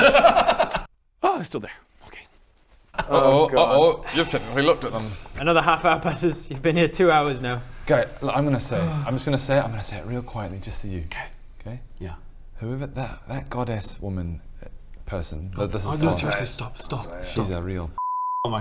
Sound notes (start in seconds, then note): 8.6 sigh